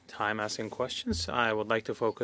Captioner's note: speaking French